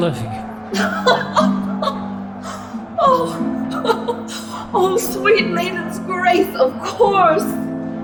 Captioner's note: laughing with tears